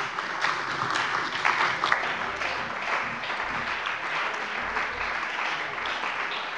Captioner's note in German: Beifall bei der CDU und dem BÜNDNIS 90/DIE GRÜNEN